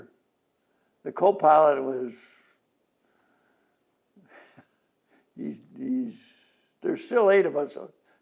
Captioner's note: laughs